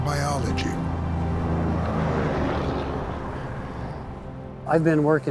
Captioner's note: truck rumbling